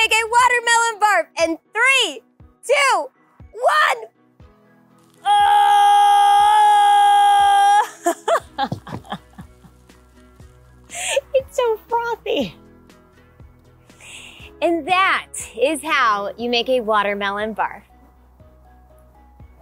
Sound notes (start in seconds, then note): 7.8 laughs; 10.9 bright upbeat music continues; 19.4 bright upbeat music continues